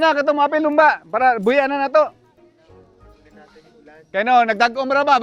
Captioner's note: speaks in local dialect